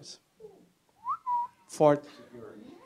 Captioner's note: whistle